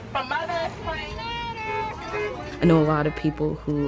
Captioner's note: traffic noise